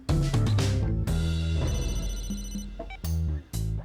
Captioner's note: phone rings